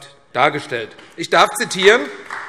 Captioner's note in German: Beifall AfD